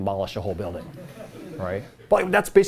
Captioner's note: laughter